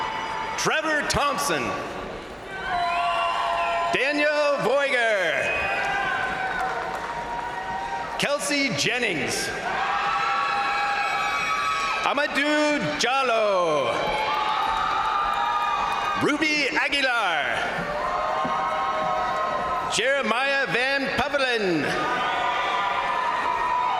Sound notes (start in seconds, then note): 0.0 crowd cheering; 2.1 crowd cheering; 5.3 crowd applauding; 5.3 crowd cheering; 10.0 crowd cheering; 13.6 crowd cheering; 13.6 crowd applauding; 18.0 crowd cheering; 22.2 crowd cheering